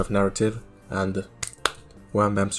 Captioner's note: clap clap